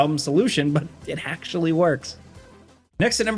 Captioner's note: laughing